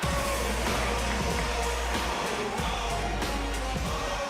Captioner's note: bell ringing